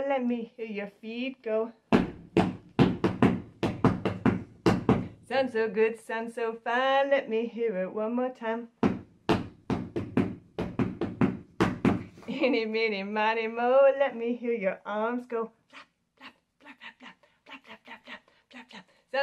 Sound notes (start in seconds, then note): 1.9 stomping; 8.7 stomping